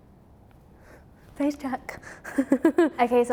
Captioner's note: laughs